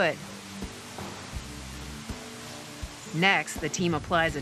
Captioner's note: spray whirring